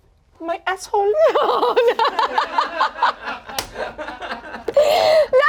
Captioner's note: everyone laughs